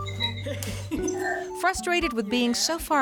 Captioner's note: laughter